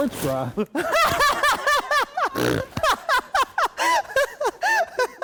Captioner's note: laughing